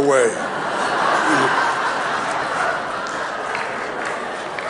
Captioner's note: audience laughing